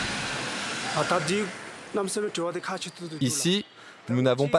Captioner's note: dzongkha spoken audio